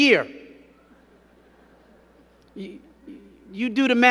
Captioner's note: crowd giggling